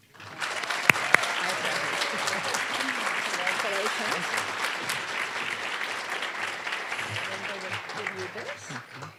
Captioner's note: applause